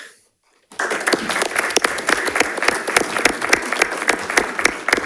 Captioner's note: audience applauding